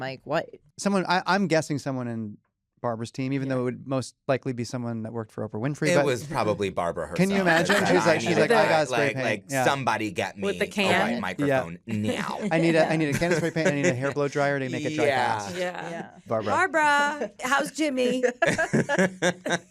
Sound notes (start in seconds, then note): 15.3 all agreeing; 18.0 laughter